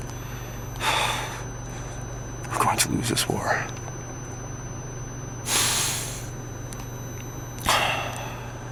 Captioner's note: sigh